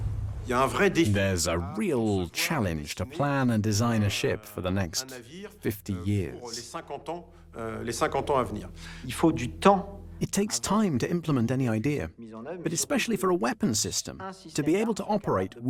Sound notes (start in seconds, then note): 0.9 voiceover; 10.3 voiceover